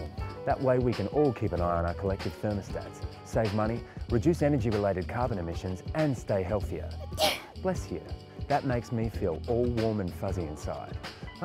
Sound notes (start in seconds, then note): 7.1 female sneezes